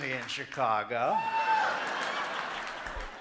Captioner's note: audience hooting